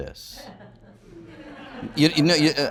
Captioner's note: audience laughs